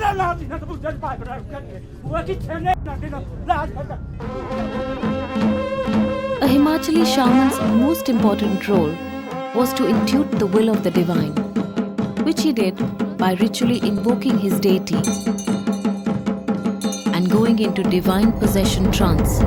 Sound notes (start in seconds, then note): 4.1 soft drumming; 4.2 trumphets blowing; 11.4 bells jingling; 11.4 intense drumming; 15.1 bells jingling; 15.1 intense drumming